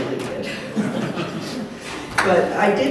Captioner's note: laughter